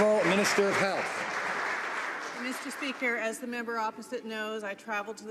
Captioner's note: some Applause